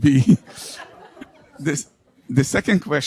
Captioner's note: audience laughs